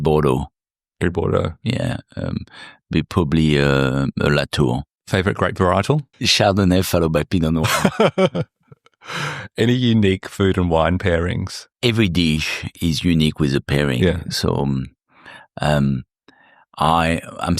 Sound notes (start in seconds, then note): 7.6 laughing